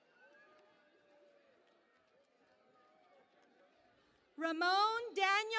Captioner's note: cheering and Applause